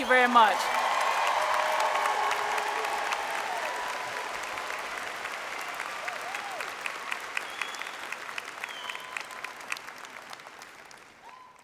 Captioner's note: applause